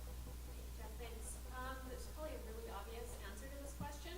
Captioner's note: voiceover